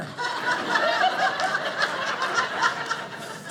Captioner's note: audience laughing